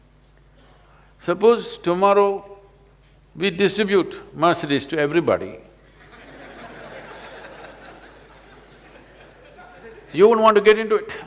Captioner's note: laughter